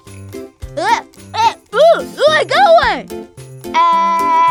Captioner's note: duck quacking